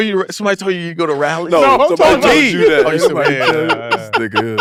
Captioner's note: laughs